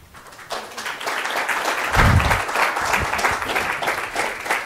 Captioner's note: audience applauds